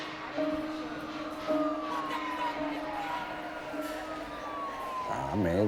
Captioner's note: siren